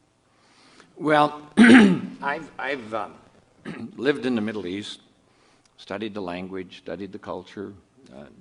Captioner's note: clears throat